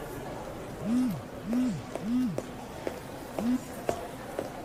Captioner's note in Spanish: Vibra el celular